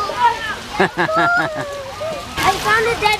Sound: laughs

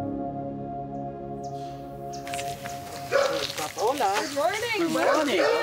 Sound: dog barking; bird chirping; foreign language

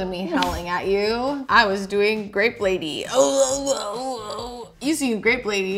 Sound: groans

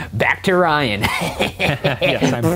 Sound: laughs

